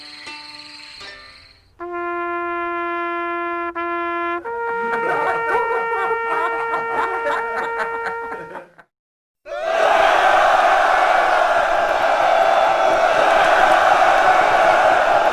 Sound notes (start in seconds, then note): 9.4 soldiers cheering